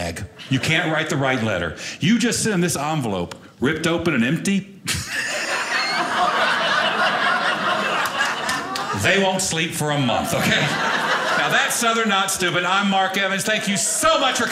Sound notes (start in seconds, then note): 4.9 audience laughing